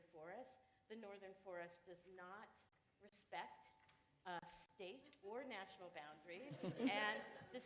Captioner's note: laughter